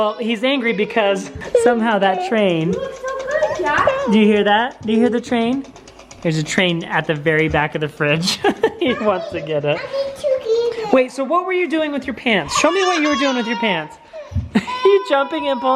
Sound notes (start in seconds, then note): 8.2 laughing